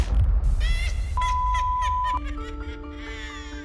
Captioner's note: upbeat music; witch cackling; ominous music